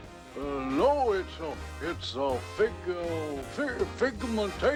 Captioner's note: stutters